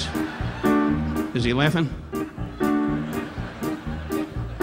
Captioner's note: audience laughing; upbeat piano music continues